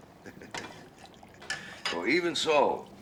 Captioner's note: chuckles